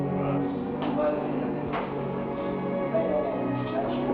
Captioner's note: people chatter